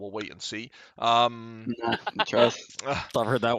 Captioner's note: laughs